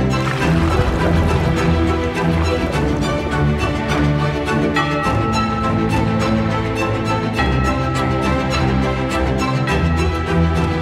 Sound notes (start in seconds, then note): 0.0 water gurgling; 4.6 bell tolling